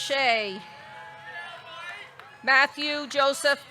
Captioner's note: audience cheering